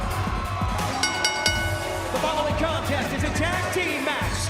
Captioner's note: bell ringing